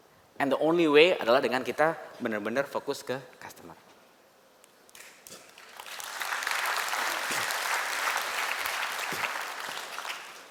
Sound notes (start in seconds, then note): 1.9 non-english speech; 5.4 applause